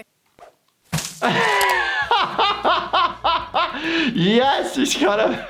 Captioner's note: bag squishes; laughs